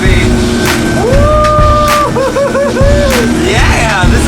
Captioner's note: whoops